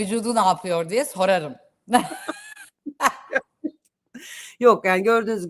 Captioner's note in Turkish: kahkaha